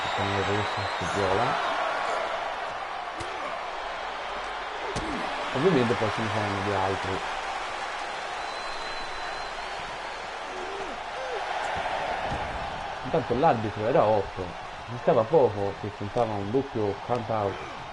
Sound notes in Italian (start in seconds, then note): 15.3 Applauso